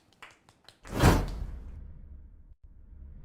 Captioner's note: applause